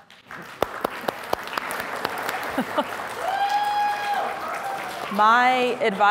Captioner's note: audience cheers and applauds